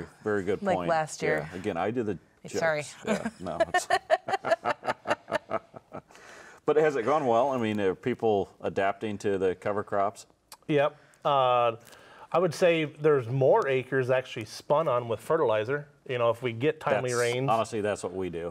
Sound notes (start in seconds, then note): 3.0 laughs